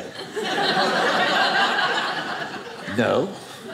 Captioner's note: audience laughing